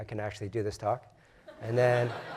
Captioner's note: laugh